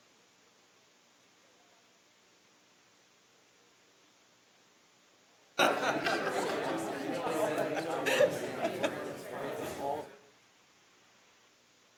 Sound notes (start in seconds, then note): 5.6 woman laughing; 5.6 people chattering